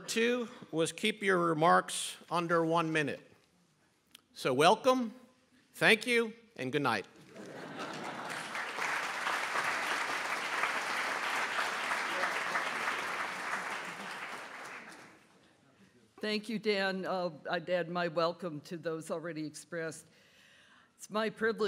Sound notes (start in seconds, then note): 7.3 applause